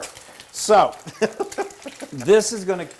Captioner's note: laugh